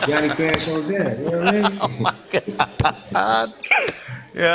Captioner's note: laughing